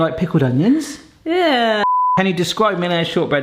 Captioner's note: beep